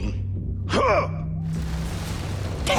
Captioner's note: grunting